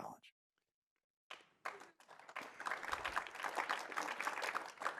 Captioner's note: audience applauding